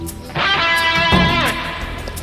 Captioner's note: door shuts